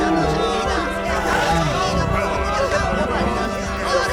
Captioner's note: tyrannosauric-phantasmagorical moan